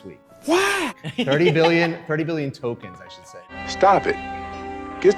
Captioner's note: laughter